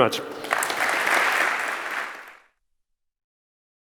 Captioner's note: applause